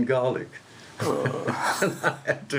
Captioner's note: laughs